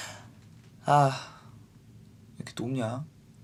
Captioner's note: whew